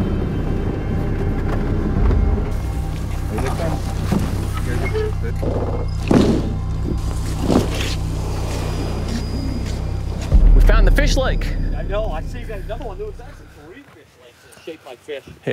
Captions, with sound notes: (tires rumbling) (people chattering) (lift slamming) We found the fish lake. - I know, I see that there's another one. There was actually three fish lakes that are shaped like fish.